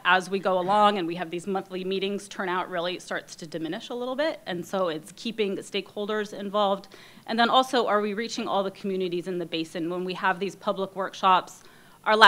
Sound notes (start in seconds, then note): none